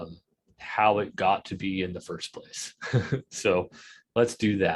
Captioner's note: chuckles